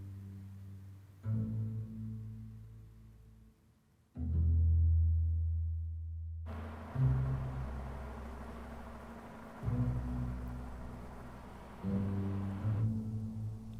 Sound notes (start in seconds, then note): 6.4 car humming